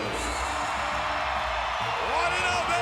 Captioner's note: audience cheers